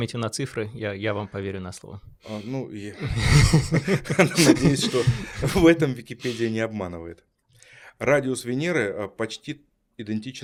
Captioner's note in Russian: смех